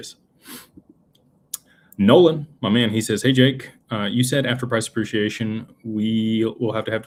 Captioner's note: snorts